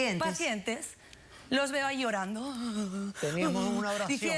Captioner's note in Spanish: llora